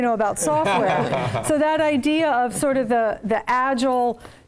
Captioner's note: laugh